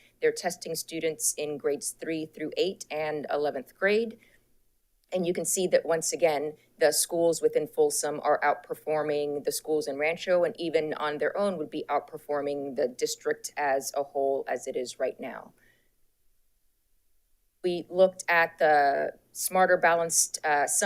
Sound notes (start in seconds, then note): none